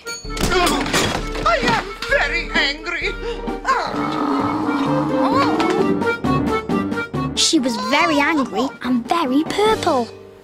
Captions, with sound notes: [THUD!] - I am very angry! [SHE GROWLS] She was very angry and very purple.